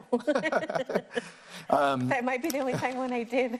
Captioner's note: laughs